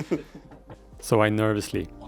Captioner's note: laughs